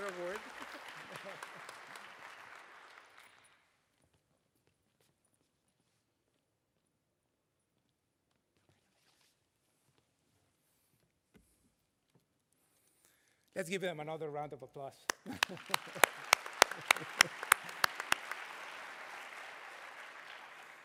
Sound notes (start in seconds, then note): 5.0 applause